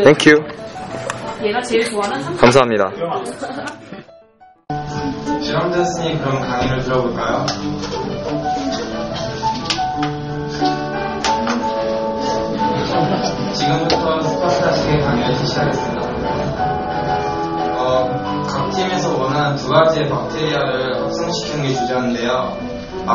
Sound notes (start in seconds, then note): 17.8 thunder